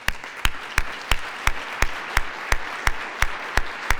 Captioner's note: applause